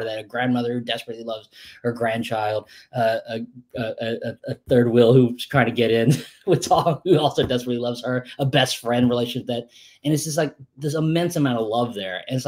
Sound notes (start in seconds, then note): 6.3 laughs